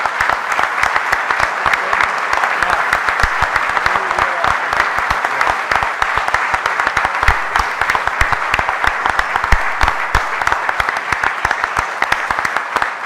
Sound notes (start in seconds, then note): 1.8 applause drowns out talking; 6.3 audience applauding